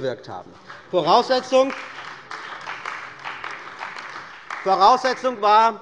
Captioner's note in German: Beifall bei der CDU und dem BÜNDNIS 90/DIE GRÜNEN